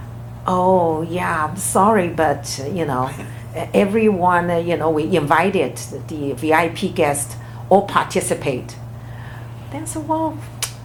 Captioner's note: laughs